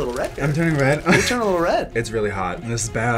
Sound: laughs

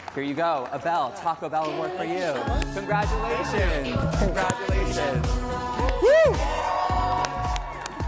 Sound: cheers and applause

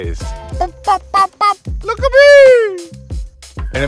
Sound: bird impressions

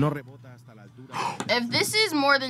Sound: man speaks in foreign language; gasps

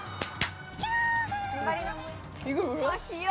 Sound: scream

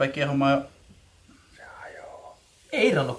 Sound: silent whisper of cameraman : it breaks down

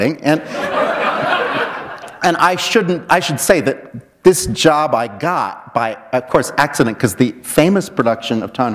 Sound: laughter

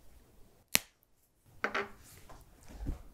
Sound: snap

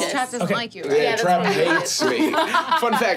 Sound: laughing

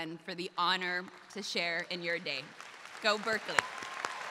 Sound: crowd applauding

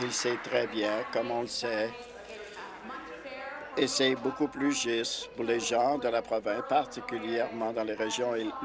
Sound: applause

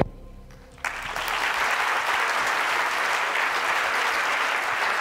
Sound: applause

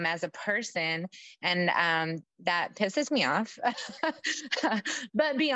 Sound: laughs

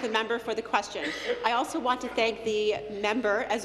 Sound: applause

